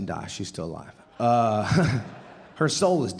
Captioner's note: audience laughing